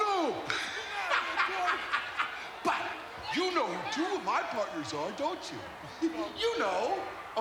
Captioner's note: laugh